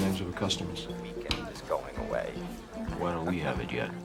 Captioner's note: laughs